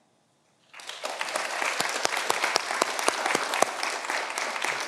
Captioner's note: audience applauding